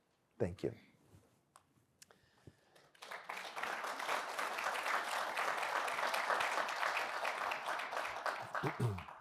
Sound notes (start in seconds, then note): 2.7 applause